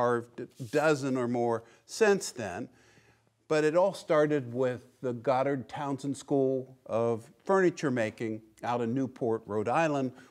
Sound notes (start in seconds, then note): none